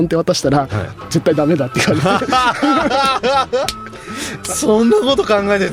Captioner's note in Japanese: 笑い